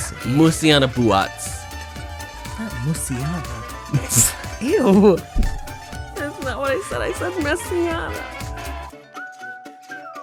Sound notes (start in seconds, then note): 3.8 laughs